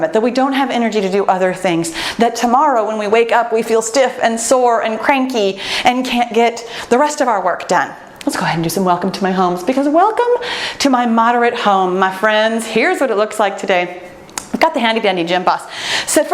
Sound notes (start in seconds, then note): none